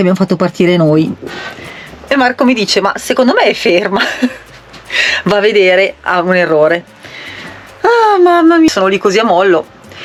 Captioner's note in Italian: risate